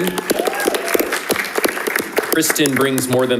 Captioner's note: audience applauding